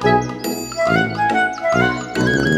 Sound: none

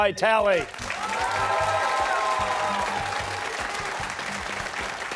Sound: cheers and applause

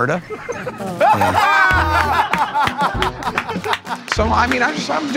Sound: laughter

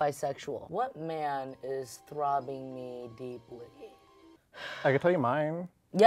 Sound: sighs

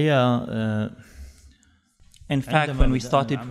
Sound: Arabic language, then fades down and translation comes up

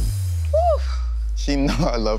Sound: sighs

